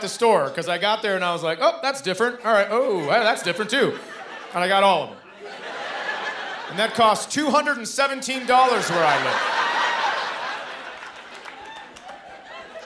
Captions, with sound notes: 'Cause I got there and I was, like, "Oh, that's different. All right, oh, that's different, too." And I got all of 'em. And that cost $217 where I live. [laughter]